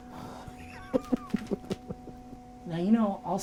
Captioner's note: laughing